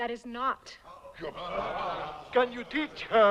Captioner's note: chieftains murmuring